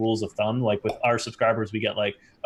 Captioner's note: popping sound